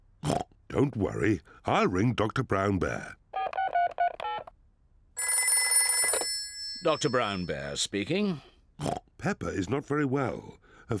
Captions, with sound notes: (OINKS) Don't worry. I'll ring Doctor Brown Bear. (DIALING) (PHONE RINGS) Doctor Brown Bear speaking. (OINKS) Peppa is not very well.